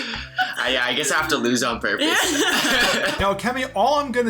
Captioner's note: both laugh